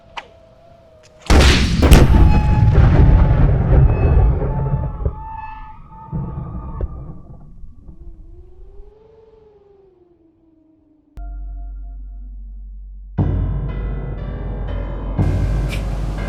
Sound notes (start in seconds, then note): 0.0 steadily intensifying horror music; 1.2 thunderous gunshot; 13.1 suspenseful horror music